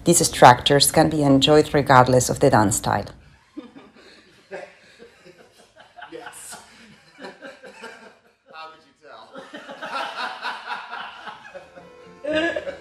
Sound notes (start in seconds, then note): 3.3 dancers laughing